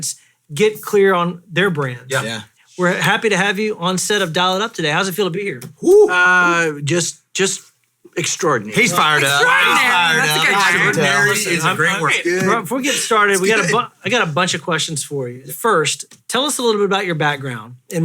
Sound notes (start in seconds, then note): 7.1 hoot